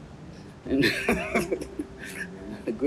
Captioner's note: laughs